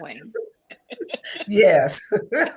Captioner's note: both laugh